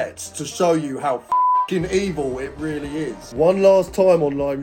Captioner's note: beep